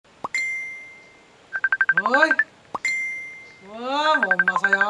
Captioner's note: notification sound; phone rings